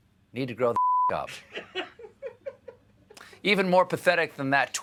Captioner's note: laughter